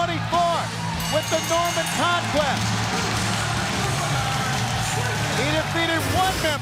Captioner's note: crowd cheering